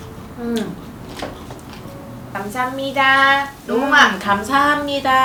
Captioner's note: Korean